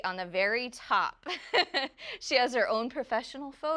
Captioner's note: laughs